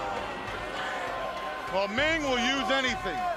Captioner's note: crowd chatter